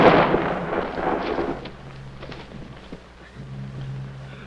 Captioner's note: bomb explodes